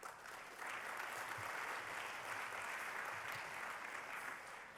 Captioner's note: applause